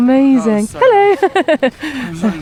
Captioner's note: laughs